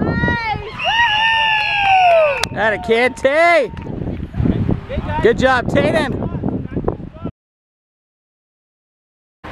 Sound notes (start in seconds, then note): 0.7 whistle blows